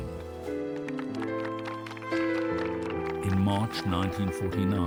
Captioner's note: clapping